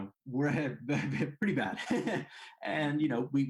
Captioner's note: laughs